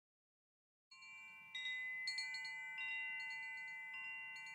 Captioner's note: bells chime